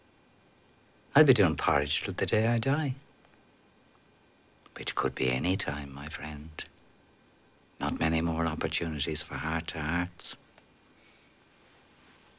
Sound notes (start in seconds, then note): none